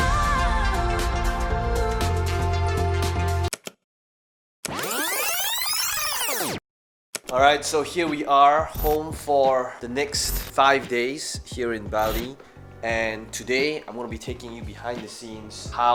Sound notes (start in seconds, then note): 3.7 clicking; 4.7 rewind squeak